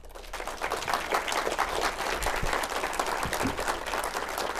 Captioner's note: audience applauding